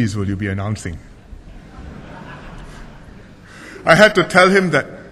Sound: laughter

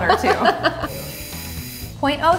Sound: laughs

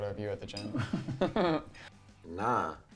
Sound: laughing

